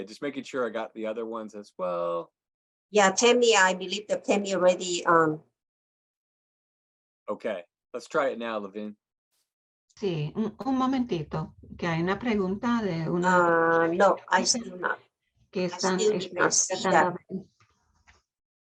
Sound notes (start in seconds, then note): 10.4 woman speaking in Spanish